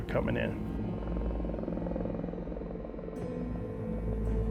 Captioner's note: haunting music; helicopter whirring